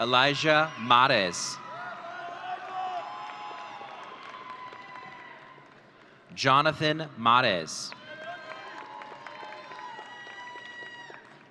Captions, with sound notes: Elijah Mares. (audience cheering) Jonathan Mares. (audience cheering)